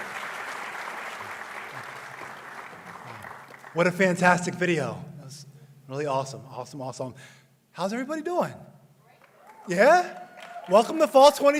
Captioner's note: applause